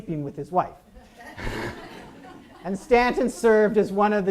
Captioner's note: audience laughs